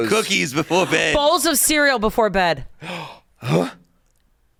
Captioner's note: gasps